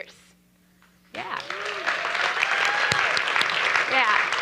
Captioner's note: applause and cheering